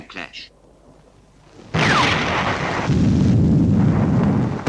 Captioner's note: bombs exploding